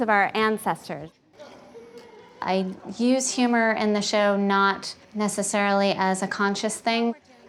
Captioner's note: narrating